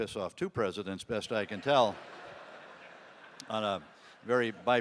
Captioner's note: audience laughing